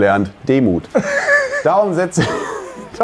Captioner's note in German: Lachen